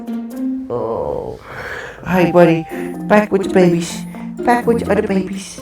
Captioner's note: groaning